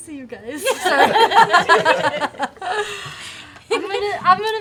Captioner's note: laughter